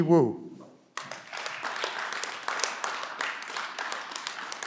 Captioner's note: clapping